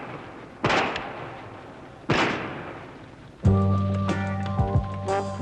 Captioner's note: gun shots